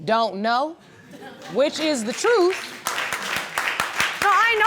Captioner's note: audience laughing and applauding